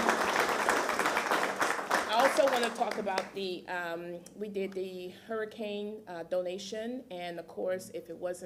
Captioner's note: applause